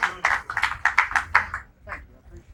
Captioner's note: applause